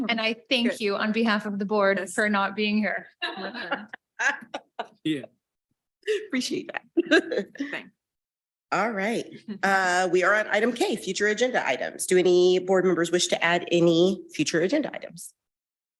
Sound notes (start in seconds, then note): 3.2 and participants laughing; 8.2 laughing